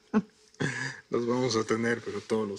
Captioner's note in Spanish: Risas